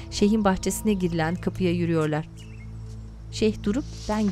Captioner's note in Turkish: Kuş cıvıltısı sesi